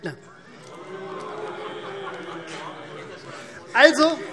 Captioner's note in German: Zurufe: Ui!